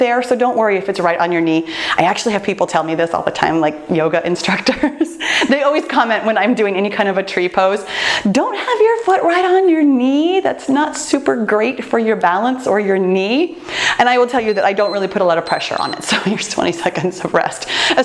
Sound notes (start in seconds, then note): 14.3 timer beeps